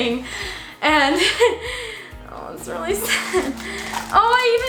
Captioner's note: laughs